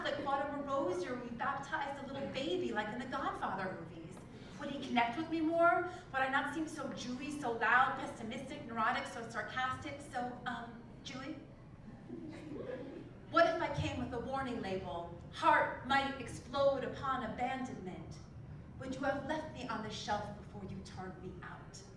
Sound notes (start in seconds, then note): 0.0 laugh; 12.1 laugh